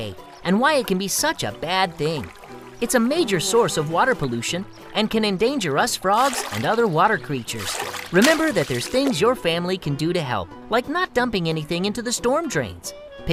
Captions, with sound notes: something about stormwater runoff today and why it can be such a bad thing. [fly buzzing] It's a major source of water pollution and can endanger us frogs and other water creature. [ fish splashing] Remember, that there's things your family can do to help, like not dumping anything into the stormdrains,